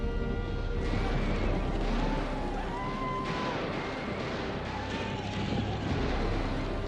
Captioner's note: hooves thundering; intense foreboding music; gunshots booming; posse whooping